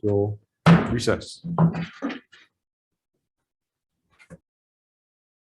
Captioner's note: hummers the table